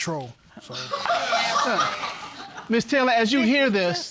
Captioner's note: audience laughing hysterically